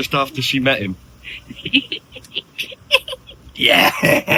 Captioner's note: laughing